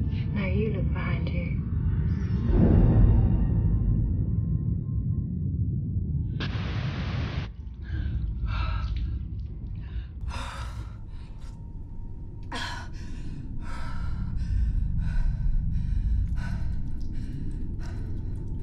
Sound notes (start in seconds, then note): 6.6 TV hissing; 8.4 panting